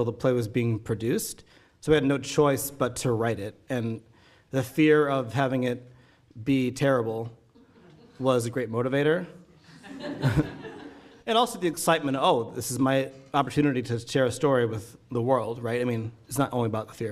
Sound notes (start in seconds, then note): 9.6 audience laughing; 9.6 laughing